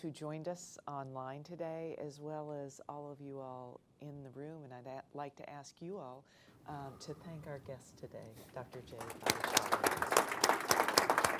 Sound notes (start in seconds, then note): 8.8 applause